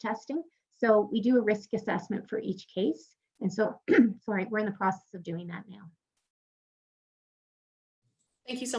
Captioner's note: coughs